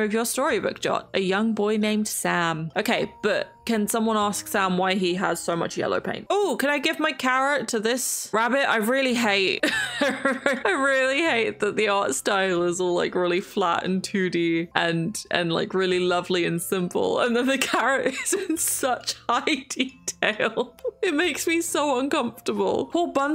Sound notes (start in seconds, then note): 9.8 laughs; 20.1 laughs